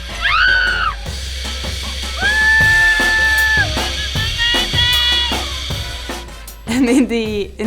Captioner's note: screaming